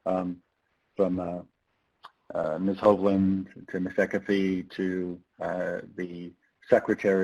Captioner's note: speaks faintly